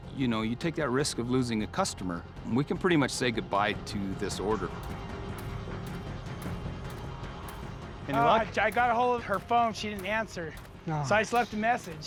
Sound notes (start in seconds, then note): 4.8 footsteps